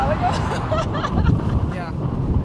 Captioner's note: laughing loudly